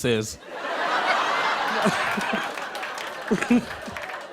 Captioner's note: laughter